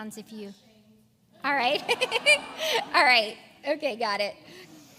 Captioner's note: laugh